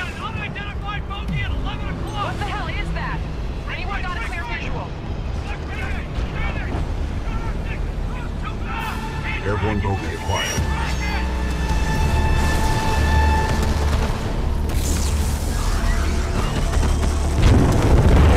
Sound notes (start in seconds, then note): 0.6 radio